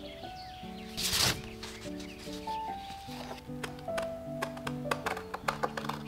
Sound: papers rustle

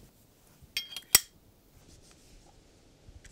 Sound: funnel magnet pings

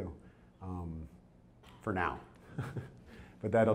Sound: chuckles

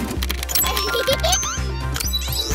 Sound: clicking; Noah giggles; beeping

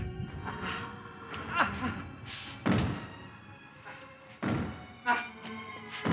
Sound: Leslie grunting; footsteps thudding

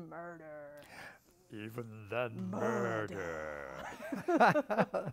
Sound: British accent; laughter

